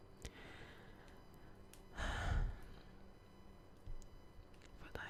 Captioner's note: long sigh of nostalgia